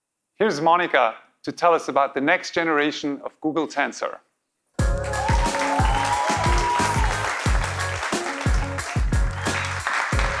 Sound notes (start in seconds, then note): 4.8 audience cheering; 7.4 applause